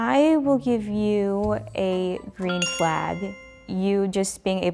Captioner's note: bell dings